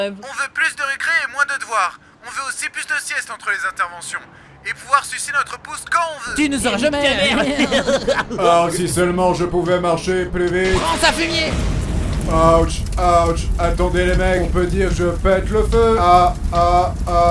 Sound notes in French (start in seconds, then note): 6.4 rire